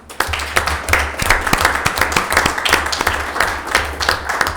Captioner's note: board members clapping